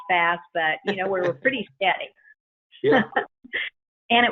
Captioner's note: laughs